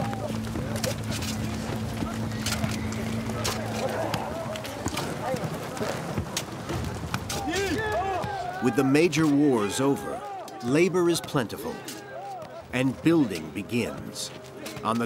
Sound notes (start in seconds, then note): 0.1 shovels scraping